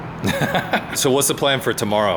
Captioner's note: laughter